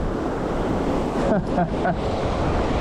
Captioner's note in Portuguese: Risos